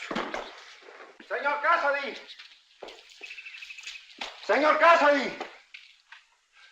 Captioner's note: yelling